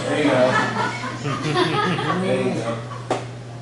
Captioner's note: laughter